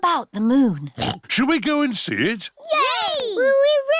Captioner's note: oinks